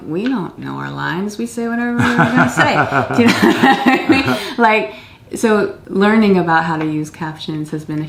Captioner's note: laughter